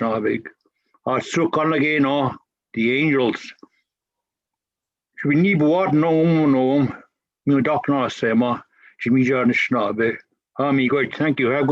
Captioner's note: foreign language